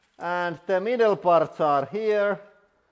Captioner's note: none